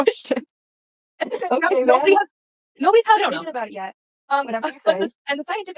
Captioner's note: incredulous laughter